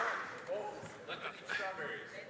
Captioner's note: some Applause